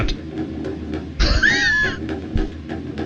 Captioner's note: laughs